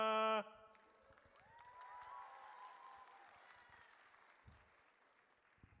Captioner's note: audience cheers